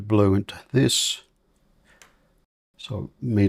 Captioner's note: silence